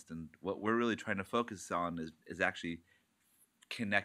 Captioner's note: none